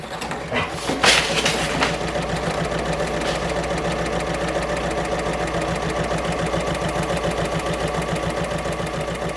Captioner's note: sewing Machine Sounds